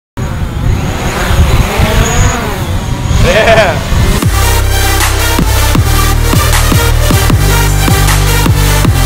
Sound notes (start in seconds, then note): 0.2 drones flying; 3.9 booming electronic music